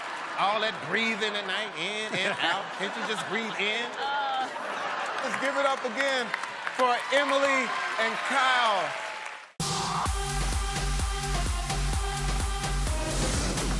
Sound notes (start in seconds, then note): 3.8 laughter; 8.5 applause